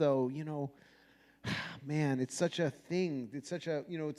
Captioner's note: sighs